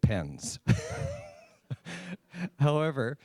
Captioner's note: laughs